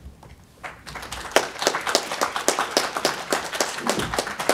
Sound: audience applauding

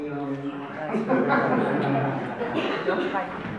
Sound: audience laughs

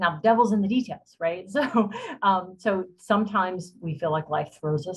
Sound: laughter

